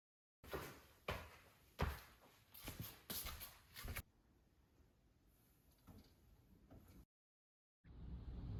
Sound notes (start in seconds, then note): 2.5 footsteps patter